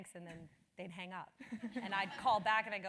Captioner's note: laugh